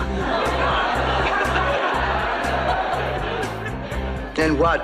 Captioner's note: laughs